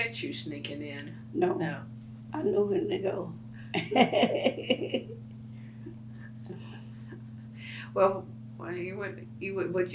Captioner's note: laughs